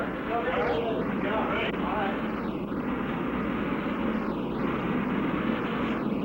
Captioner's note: people taking in the background